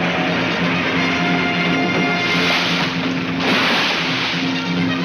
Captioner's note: water splashes